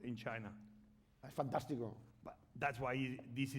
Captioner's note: speaking spanish